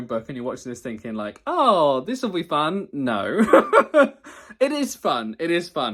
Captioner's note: laughs